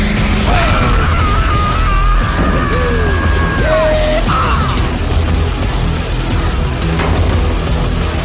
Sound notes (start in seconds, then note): 1.1 screams in australian